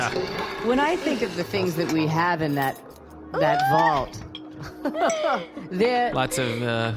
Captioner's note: Mark and Connee laugh again